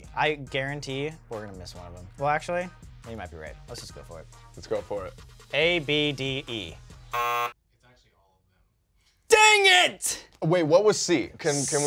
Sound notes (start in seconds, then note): 7.1 buzzer